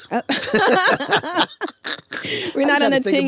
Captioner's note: both laughing